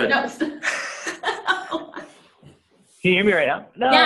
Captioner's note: laughing